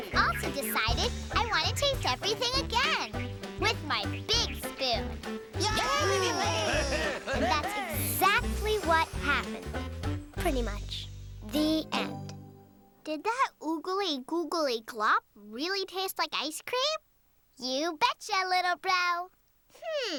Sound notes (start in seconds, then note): 5.6 all cheering